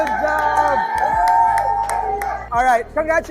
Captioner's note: cheering continues